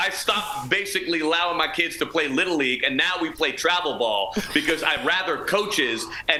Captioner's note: laughter